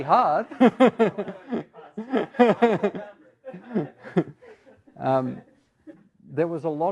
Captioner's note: laughter